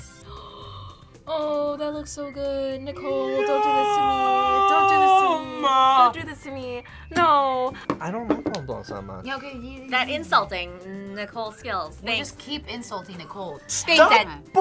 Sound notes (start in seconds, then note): 0.3 gasps; 9.4 mumbles mockingly